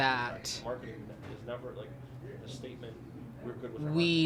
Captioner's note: background chatter